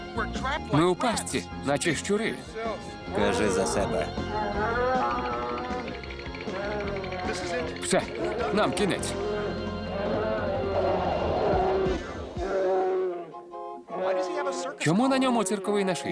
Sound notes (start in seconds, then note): 4.3 growling; 5.0 teeth chattering